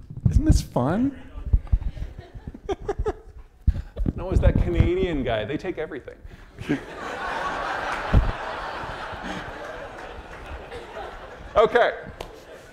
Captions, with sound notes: Isn't this fun? (laughing) No, it's that Canadian guy. They take everything. (audience laughing) Okay.